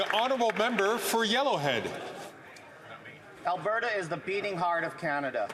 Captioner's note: some Applause